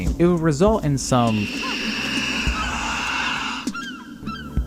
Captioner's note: screams